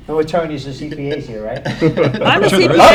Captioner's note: laughter